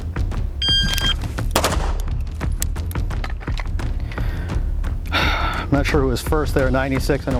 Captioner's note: timer beeps; guns fire